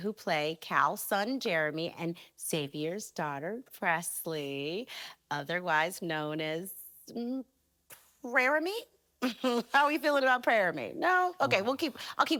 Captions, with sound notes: who play Cal's son Jeremy and Xavier's daughter Presley, otherwise known as... mm, "Preremy"? [chuckles] How we feeling about Preremy? -Ooh. -No? Okay, we'll keep--